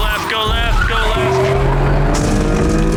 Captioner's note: engine revving; tense music